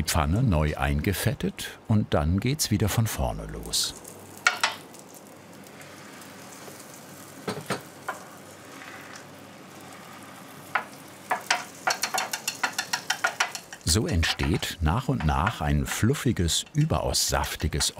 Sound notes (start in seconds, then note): 5.9 sizzle; 11.3 clatter